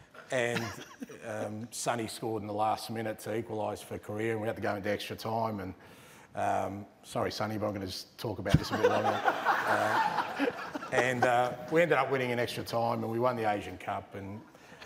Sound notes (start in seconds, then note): 8.5 laughter